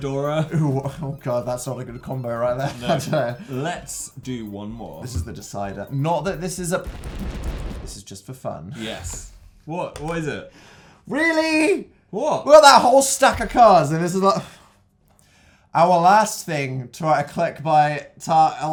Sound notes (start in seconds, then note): 6.3 explosion sounds